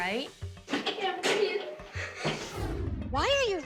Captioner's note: tearfully